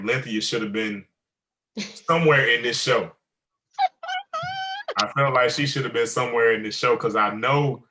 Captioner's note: giggles